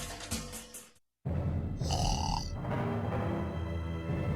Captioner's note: snoring